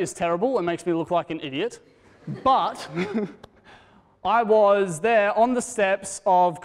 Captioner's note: laughter